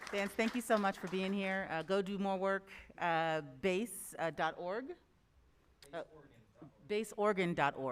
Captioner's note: applause